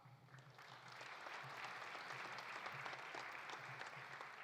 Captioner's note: audience applauding